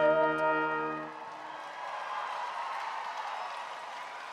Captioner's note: attendees cheering